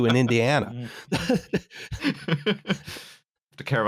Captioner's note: laughter; laughs